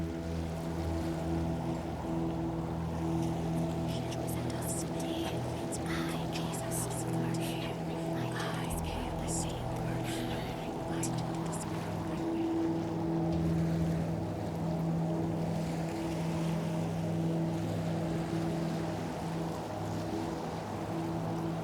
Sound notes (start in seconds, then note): 0.2 wind blows; 4.4 peaceful music; 14.1 water flows; 14.1 wind blows